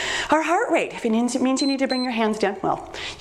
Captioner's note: timer beeps